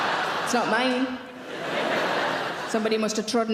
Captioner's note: audience laughing